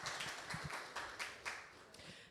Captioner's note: applause